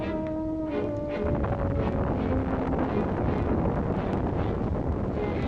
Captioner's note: volcano booming